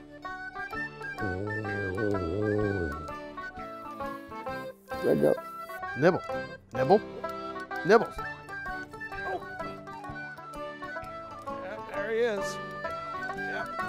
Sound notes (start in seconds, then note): 1.1 snoring